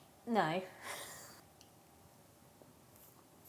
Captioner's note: chuckles